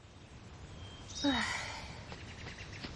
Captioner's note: sigh